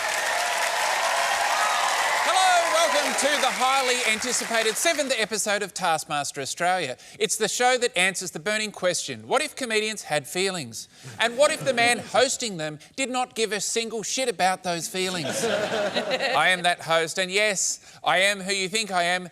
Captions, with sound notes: Hello, welcome to the highly anticipated seventh episode of Taskmaster Australia. It's the show that answers the burning question - what if comedians had feelings? And what if the man hosting them did not give a single shit about those feelings? (LAUGHTER) I am that host. And, yes, I am who you think I am -